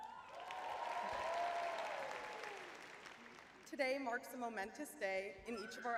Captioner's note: audience cheering